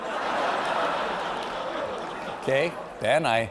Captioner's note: laughter